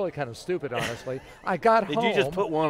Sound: laughter

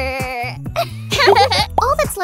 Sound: both giggle

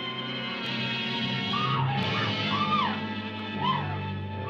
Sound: screams

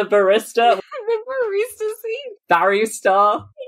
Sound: laughing

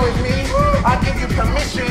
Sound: groans

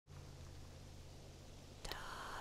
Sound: leaves in the wind; whisper

